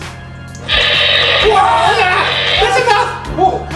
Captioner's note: zapping